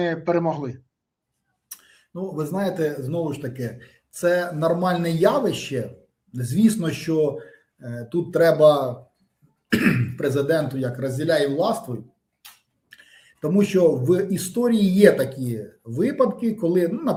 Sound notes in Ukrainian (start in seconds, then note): 9.7 прочищення горла